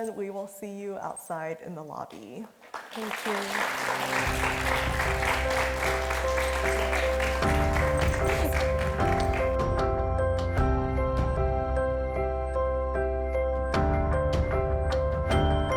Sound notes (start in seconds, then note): 2.6 audience applauds; 6.1 gentle music